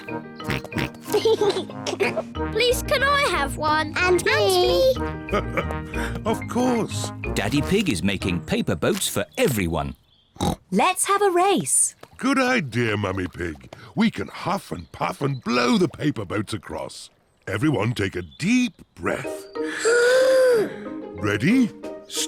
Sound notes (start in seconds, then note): 0.5 laughs; 10.4 snorts; 19.6 all inhale